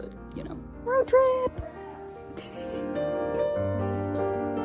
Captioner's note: laughs